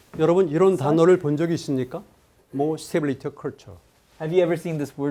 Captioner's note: speaking in Korean